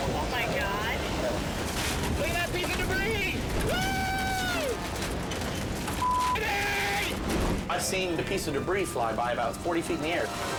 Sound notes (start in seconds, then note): 3.7 whooping